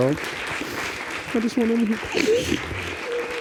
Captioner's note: crying